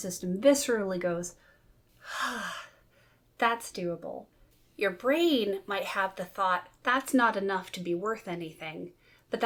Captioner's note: sighs